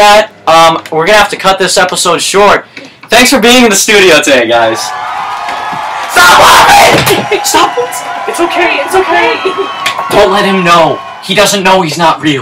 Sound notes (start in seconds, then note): 4.9 audience Cheers